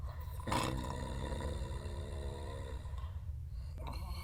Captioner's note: snoring